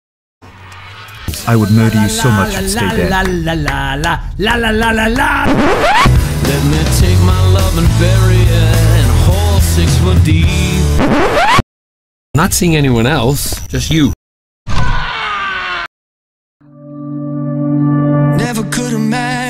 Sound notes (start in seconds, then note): 5.4 record scratch; 10.9 record scratch; 14.7 the hand sobbing